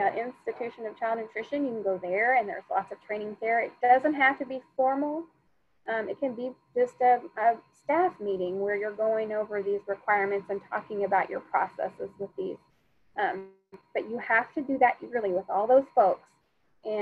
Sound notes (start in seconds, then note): none